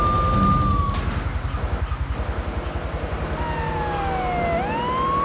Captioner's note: gun firing; siren wailing